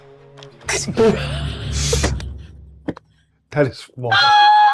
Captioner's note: group laughs